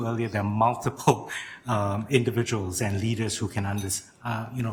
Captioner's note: chuckling